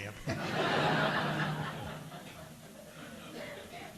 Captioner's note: audience laughing